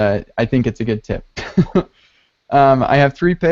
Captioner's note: chuckles